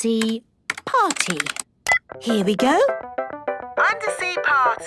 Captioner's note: beep